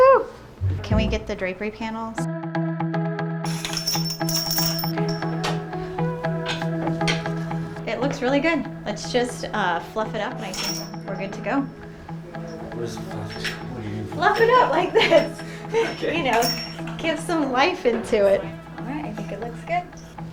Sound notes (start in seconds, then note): 2.3 upbeat music; 3.4 curtain hooks clinging; 14.2 laughs